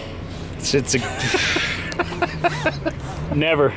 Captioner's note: laughter